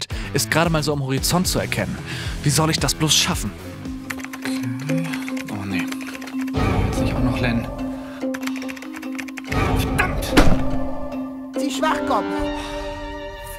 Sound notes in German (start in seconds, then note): 4.0 Schnelle Tippgeräusche; 4.4 Düstere Töne; 8.2 Schnelle Tippgeräusche, düstere Töne; 10.4 Auf den Tisch hauen